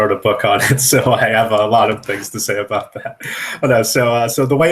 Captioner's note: laughs